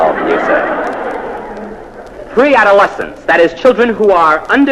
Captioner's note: laugh